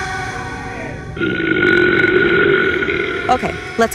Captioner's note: burps